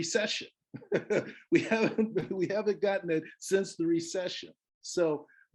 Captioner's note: laughs